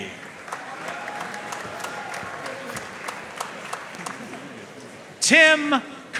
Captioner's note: audience cheering and applauding